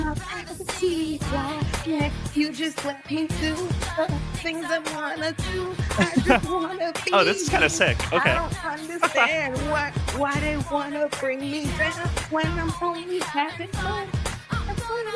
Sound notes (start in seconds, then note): 0.0 upbeat music; 10.8 laughs; 10.8 upbeat music